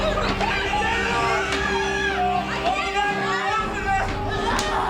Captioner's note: panicked shouting